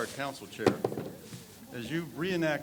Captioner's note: people chatter; object thuds